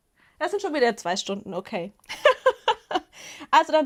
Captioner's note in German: Gelächter